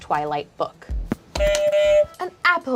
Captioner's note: buzzer honks